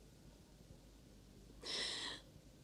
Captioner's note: whew!